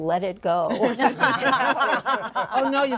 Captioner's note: laughter